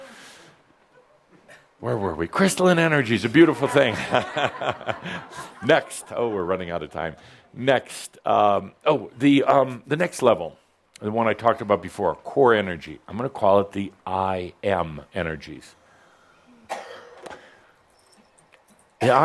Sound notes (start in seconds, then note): 3.5 laughter